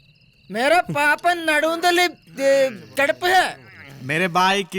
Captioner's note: in broken Hindi